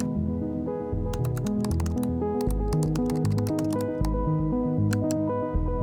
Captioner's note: keyboard keys clicking